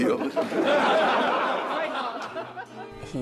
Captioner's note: crowd laughing